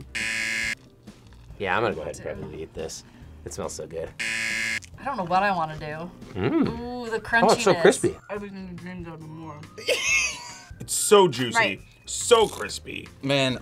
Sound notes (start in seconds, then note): 0.1 buzzer rings; 4.2 buzzer rings; 9.8 laughs